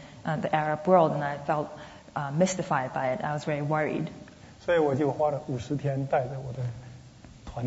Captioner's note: speaking Mandarin